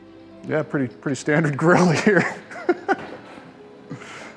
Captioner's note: laughs